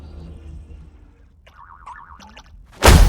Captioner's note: Gloink boinking softly